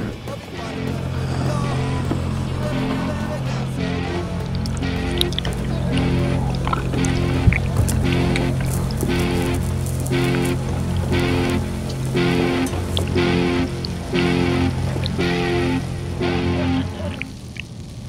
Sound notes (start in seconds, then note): 0.3 zombie growling; 4.4 flesh dripping; 8.2 intense guitar music; 14.0 liquid drips